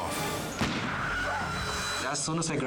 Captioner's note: gun firing